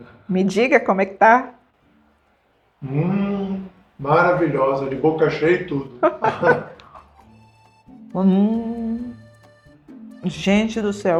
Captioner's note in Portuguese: risadas